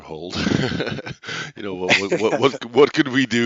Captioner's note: laughs